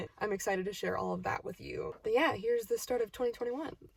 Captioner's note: none